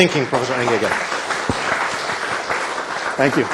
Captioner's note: applause